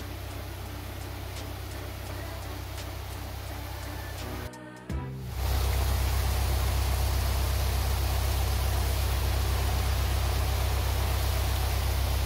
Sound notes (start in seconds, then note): 5.2 engine sound gets a little louder